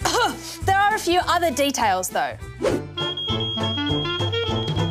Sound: coughs; beeping

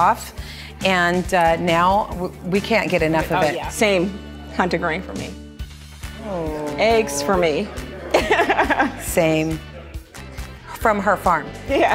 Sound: laughter

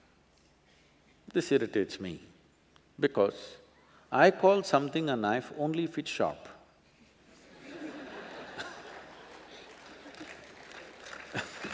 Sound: laughter/Applause

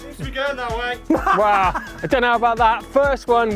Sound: laughs

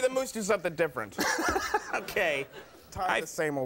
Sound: laughs

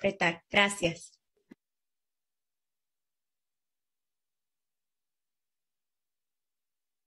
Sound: speaking in spanish

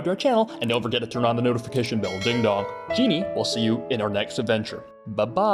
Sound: ding dong

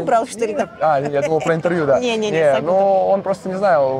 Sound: Spanish

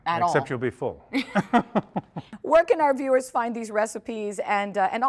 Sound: laughing

